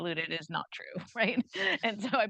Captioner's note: chuckles